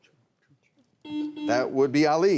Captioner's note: buzzer rings